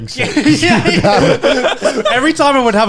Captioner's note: laughing